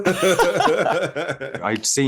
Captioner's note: laughter